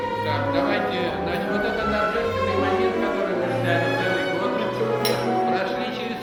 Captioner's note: speaking in the Russian language